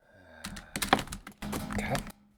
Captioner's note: clatter